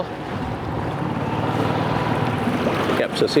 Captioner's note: boat engine humming